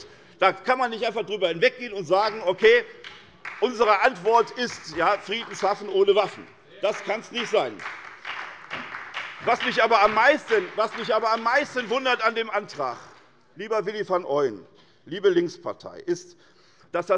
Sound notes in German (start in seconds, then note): 8.7 Beifall bei der SPD und der FDP